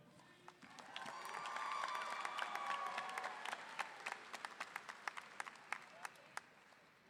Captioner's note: audience applauding; audience cheering